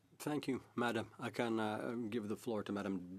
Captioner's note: speaking French